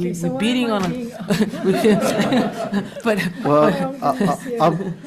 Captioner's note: group chatters